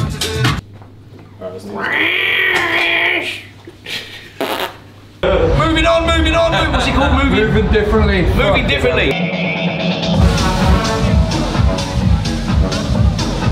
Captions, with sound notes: (meowing aggressively) - Moving on, moving on, moving. What's it called? - "Moving Differently". - "Moving Differently". (upbeat techno music)